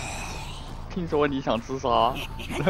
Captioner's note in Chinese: 傻笑